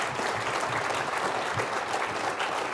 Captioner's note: applause